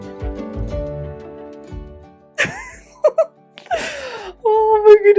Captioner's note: giggling with joy